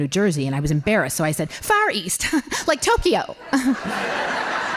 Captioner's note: laughing